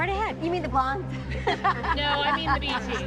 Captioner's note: laughs